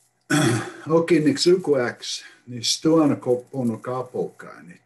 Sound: speaks in foreign language

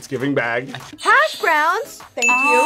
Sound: buzzer rings

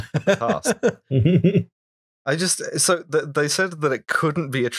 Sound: laughter

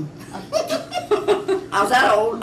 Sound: laughter

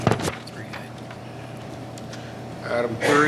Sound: faintly speaking

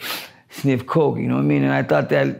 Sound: man sniffing

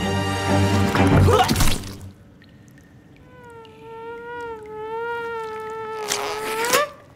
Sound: Linda, screaming; both scream, afraid; dramatic music ends; splat; fly buzzes around the cave

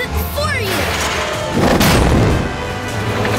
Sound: thudding

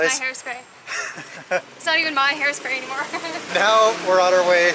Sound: laughter

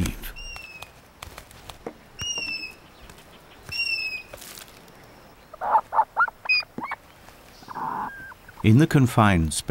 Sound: birds chirping

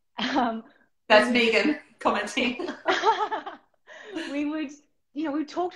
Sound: laughter

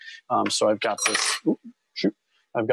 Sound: metal clinking

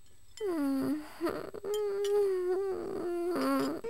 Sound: groaning

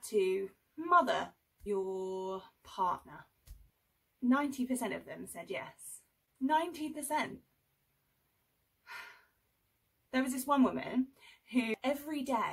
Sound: sarcastic

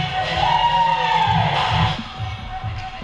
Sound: dance music; cheering; dance music

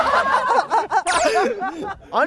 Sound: hahahaha

